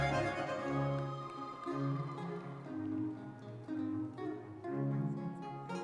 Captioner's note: audience members cheering